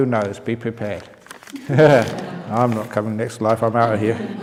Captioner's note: laughter